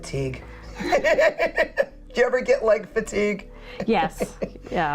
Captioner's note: laughs